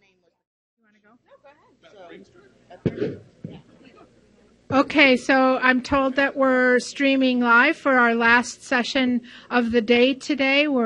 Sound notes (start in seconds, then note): 2.5 talking in background